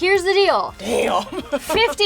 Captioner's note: laughing